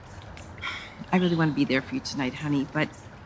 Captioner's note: sighs